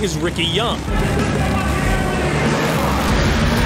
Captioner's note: engines rev